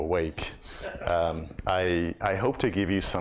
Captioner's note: audience laughs